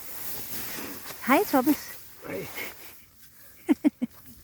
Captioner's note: laughs